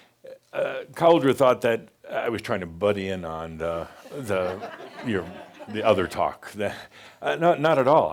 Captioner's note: some chuckles